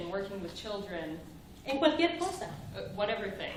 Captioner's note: speaking spanish